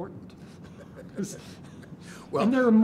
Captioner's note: laughs